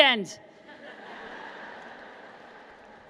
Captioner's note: laughter